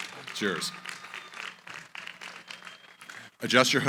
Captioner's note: applause